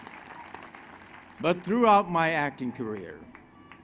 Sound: applause

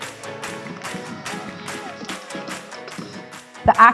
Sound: clapping and cheering

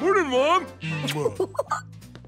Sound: giggling

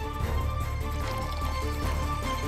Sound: pouring juice

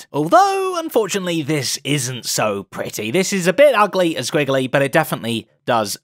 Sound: none

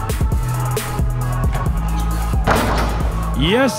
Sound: ball dunking; ball bouncing

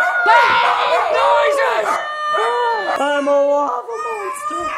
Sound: screams

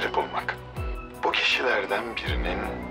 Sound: Akif voice

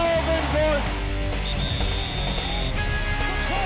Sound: whistle

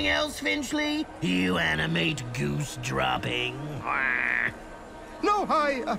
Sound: squawks

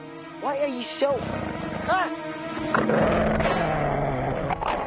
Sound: wolf growling

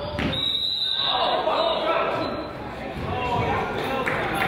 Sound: whistle blows

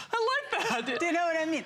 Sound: laughter

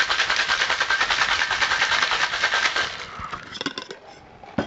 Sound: cocktail shaking sound

